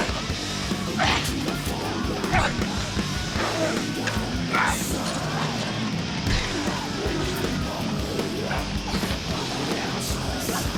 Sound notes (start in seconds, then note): 3.2 people grunting; 3.2 upbeat music